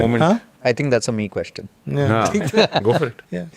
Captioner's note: laughs